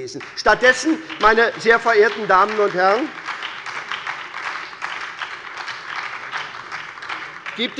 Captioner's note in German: Beifall bei der SPD